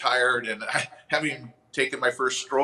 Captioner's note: chuckles